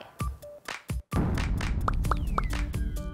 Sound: boom

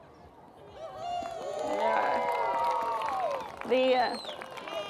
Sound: applause

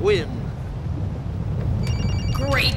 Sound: phone rings

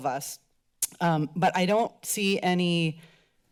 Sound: click tongue

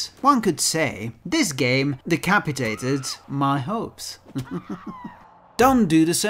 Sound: sinister laughter

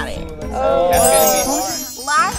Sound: group exclaiming; bells chiming

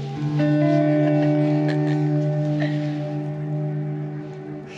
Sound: laughing

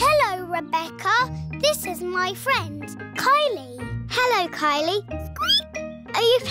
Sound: squeaks

